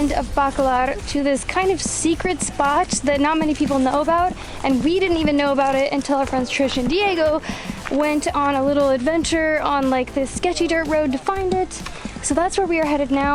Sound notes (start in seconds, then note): none